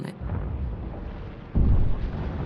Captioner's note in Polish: odgłosy wojny